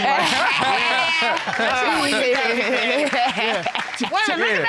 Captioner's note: all laughing